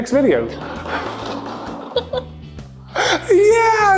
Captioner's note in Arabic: عجلة قعقعة بهدوء